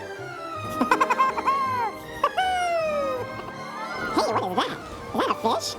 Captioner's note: laughing